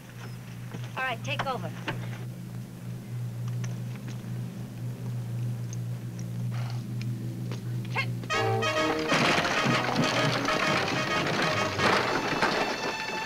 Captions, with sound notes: All right, take over. (woman shouts) (wagon rattles) (exciting music)